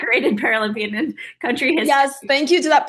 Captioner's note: laughing